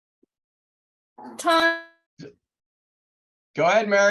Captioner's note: speaking faintly off mic